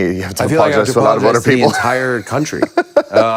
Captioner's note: laughs